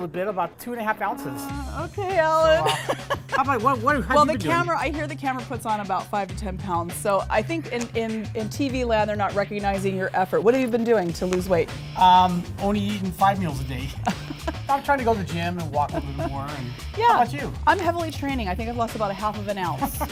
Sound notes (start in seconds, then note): 13.9 laughing